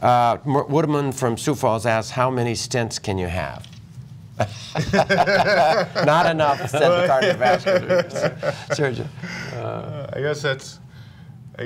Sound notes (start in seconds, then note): 4.4 laughter